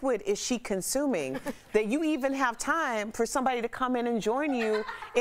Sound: laughter

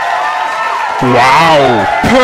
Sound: applause

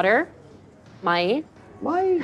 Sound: speaking in Arabic

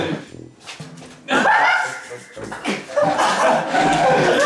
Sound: anxious laughter

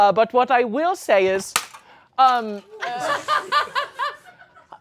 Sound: plate crashes

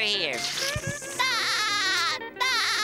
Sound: laughing

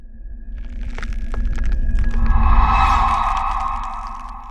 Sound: head turning sound

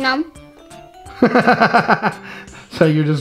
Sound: laughs

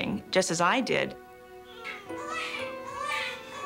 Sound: babies crying

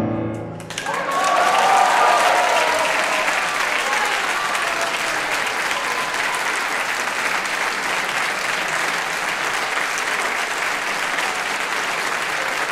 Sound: applause

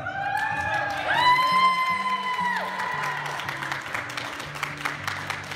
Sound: people cheering

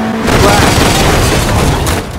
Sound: crash

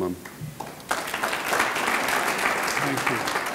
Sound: audience clapping

